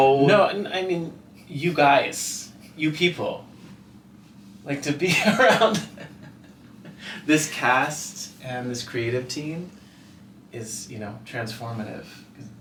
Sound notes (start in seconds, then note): 5.1 laughing